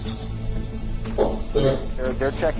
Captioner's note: knocks